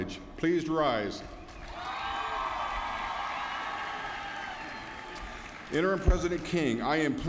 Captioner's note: applause